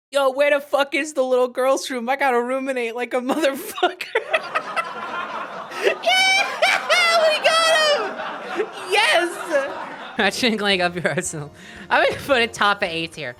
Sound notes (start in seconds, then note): 6.9 laughter intensifies; 10.1 still giggling